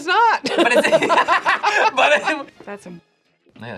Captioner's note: laughs